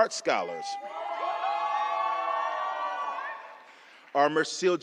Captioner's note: applause